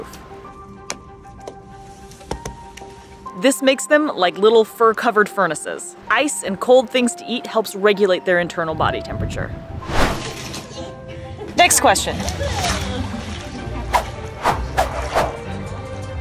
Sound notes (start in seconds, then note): 0.2 background music; 9.7 whoosing sound effect; 10.3 ice cubes falling; 12.4 water splashing sounds; 14.4 whooshing sound effects; 15.9 background music